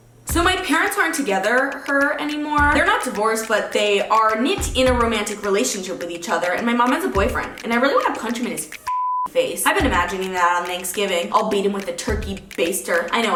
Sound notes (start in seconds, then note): 8.8 beep